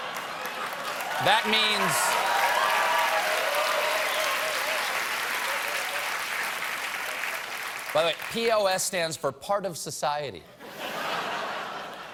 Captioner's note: cheers and applause